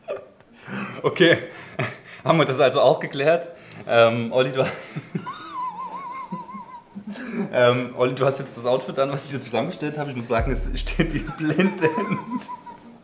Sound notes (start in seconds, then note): 5.0 wheezing